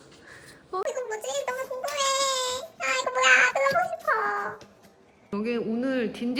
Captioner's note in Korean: 먹을 거를 발견해 경박해진 목소리